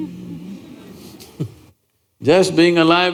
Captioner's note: laughs